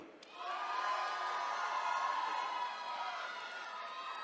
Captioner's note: attendees cheering